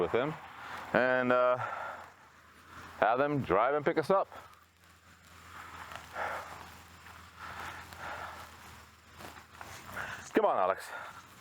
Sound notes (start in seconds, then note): 6.7 breathing heavily